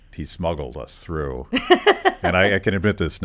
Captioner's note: laughs